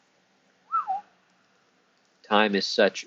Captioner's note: whistle